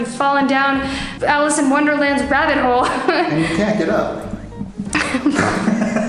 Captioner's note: laughs